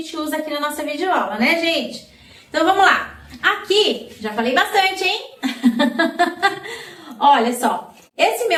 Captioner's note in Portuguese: risadas